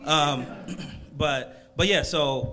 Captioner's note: crowd laughs